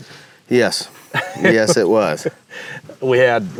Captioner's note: laughs